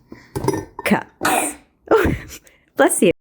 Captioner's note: baby sneeze